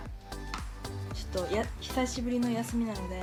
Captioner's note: speaking in foreign language